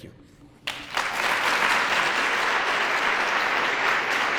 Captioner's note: applause